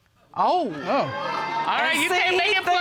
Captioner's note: audience exclaims